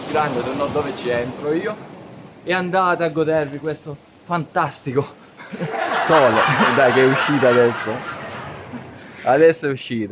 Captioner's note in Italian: risate